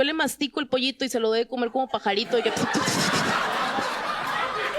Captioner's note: Risas